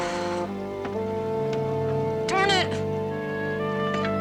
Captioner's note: sighs